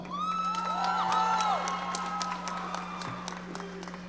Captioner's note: audience cheering